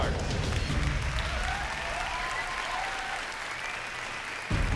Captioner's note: cheering